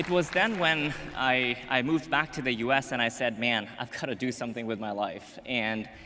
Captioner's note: applause